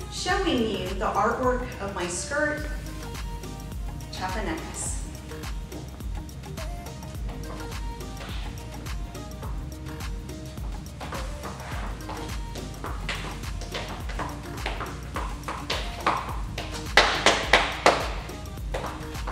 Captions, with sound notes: showing you the artwork of my skirt, "Chiapanecas". (bright music) (shoes clanking)